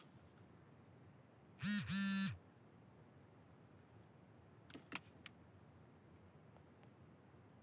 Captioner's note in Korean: 휴대전화 진동음